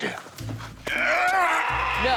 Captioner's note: Buddy yells; bird squawks